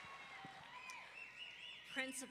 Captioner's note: audience members wolf-whistling